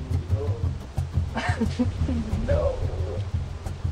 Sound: laughing

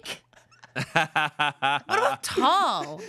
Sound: everyone laughs

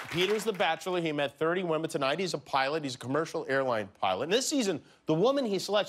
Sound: cheers and applause

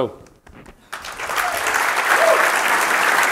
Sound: applause

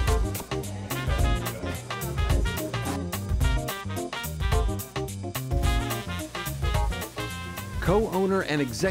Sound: restaurant Sounds

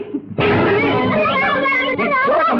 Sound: slaps

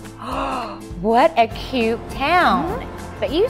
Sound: gasps

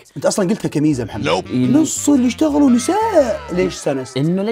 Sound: mimicking Mohammad

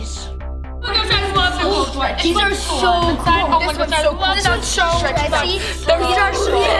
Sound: children's voices overlapping

